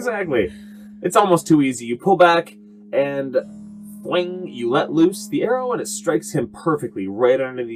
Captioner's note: twing!